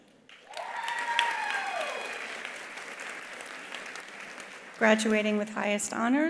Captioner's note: attendees applauding; attendees cheering